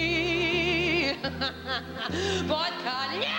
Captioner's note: laughs